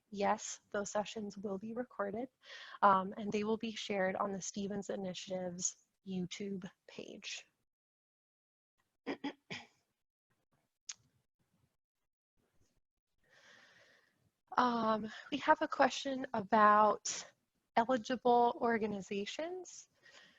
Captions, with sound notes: yes, those sessions will be recorded, and they will be shared on the Stevens Initiatives' YouTube page. (clears throat) We have a question about eligible organizations.